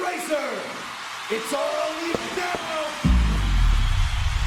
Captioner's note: chest thumping